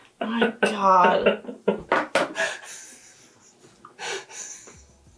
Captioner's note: laughing